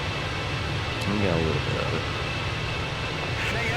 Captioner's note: radio chatter